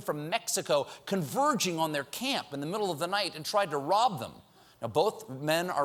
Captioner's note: none